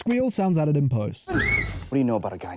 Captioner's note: tiny scream again